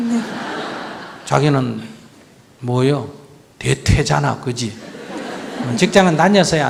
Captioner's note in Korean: 청중 웃음; 청중 웃음